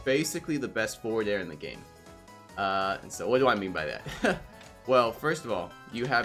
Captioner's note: laugh